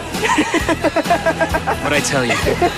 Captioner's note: laughing